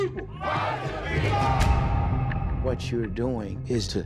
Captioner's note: crowd